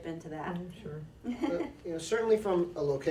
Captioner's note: laughs